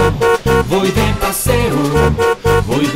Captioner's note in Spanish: Sonido de Bocina